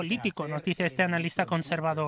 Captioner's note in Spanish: hablan en inglés